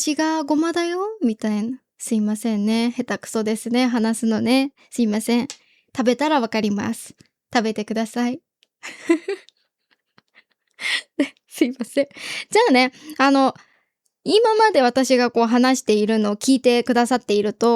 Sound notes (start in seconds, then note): 8.8 laughs